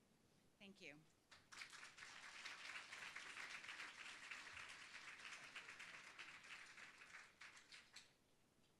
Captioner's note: applause